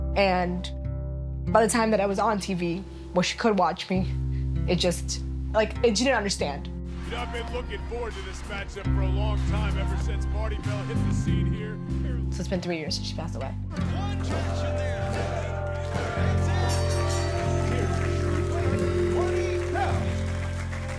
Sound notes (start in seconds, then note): 13.8 crowd; 17.4 bell dings